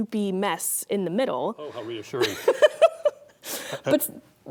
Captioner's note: laughing